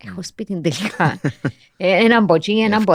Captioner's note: he laughs